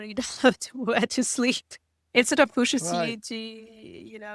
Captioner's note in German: lacht